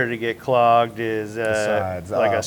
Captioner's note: none